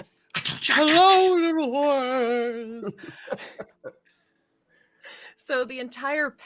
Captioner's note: Silas' voice echoes loudly